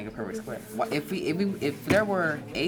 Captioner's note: students writing